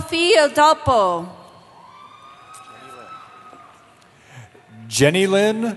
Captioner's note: cheering